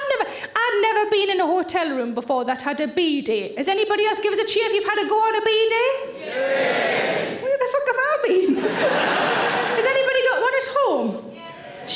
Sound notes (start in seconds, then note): 6.3 audience cheering